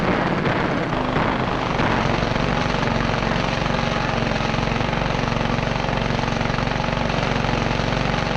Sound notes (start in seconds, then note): 0.0 engine roaring; 0.1 engine rattling